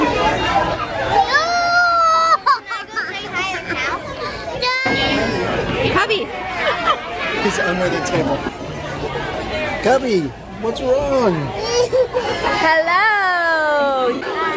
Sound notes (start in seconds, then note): 2.5 cries